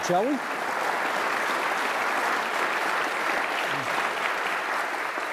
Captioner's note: audience applauding